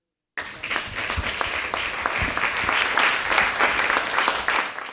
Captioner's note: applause